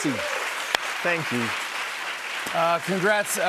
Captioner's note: cheers and applause